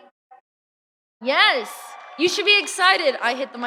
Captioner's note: audience cheering